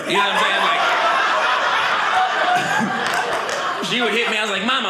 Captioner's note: audience laughing